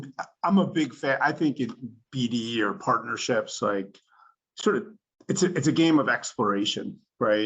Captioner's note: laughs